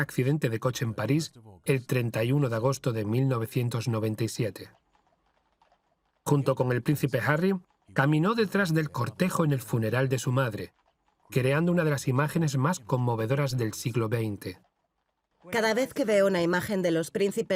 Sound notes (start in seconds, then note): 3.3 horses' hooves clomping